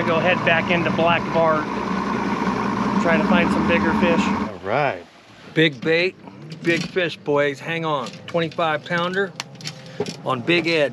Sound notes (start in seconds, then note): 4.7 boat engine running